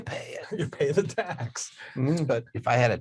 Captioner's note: laughs